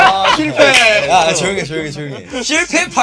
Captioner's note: laughs